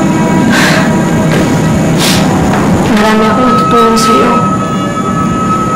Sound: sighs, sniffles

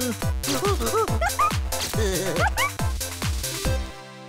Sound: monkey sounds and laughter

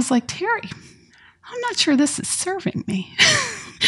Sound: laughs

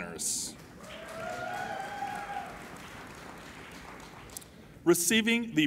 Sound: applauding and cheering

